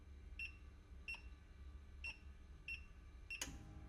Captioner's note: machine beeping